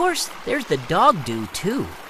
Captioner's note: water running